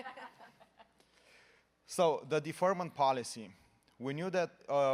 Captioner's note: laughter